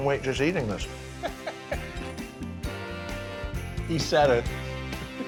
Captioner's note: John laughing